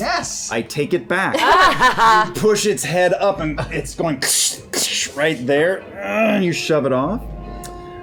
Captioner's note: biting sounds